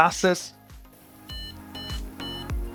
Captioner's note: beep